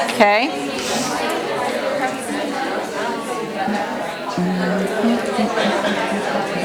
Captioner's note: chatter